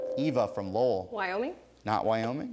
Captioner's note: ding